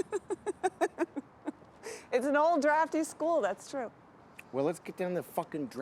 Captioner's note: Isabel laughing